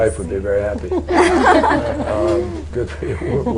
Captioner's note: laughter